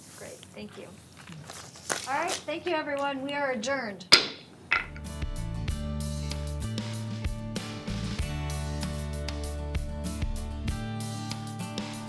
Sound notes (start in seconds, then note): 4.1 gavel bangs; 6.1 upbeat music